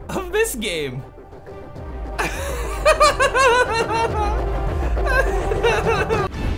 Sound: laughs

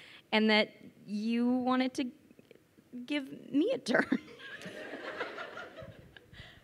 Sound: crowd laughing

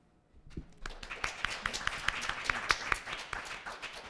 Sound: applause

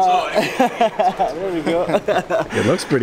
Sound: laughing

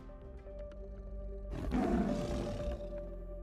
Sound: tiger roaring

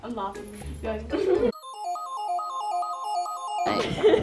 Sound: laughs

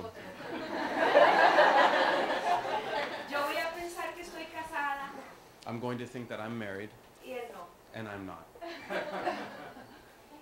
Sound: laughter

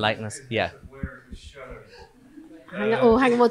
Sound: faintly speaking

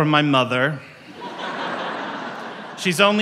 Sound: audience laughs

